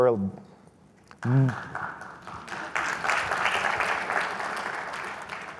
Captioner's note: audience applauds